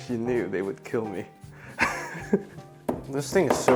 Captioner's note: chuckles